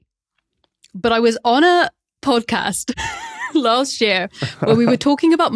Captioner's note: wheezes